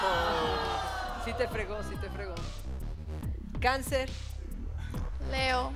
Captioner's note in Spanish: Exclamaciones